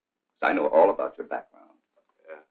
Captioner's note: none